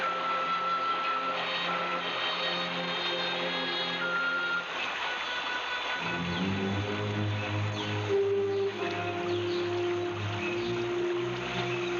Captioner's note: water splashing